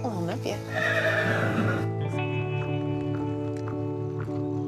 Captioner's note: horse whinnies